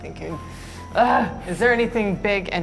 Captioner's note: groaning